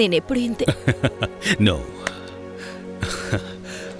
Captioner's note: laughs